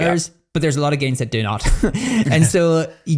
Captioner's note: laughs